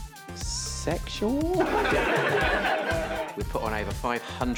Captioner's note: audience laughs